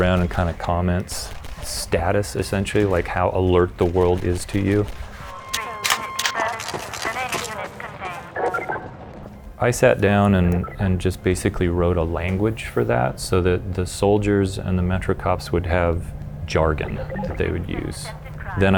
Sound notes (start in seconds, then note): 5.4 chatter over radio; 5.5 gun reloading